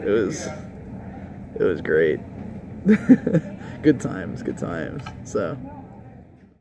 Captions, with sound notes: It was- It was great. *laughs* Good times, good times.